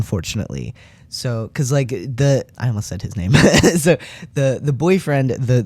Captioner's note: laugh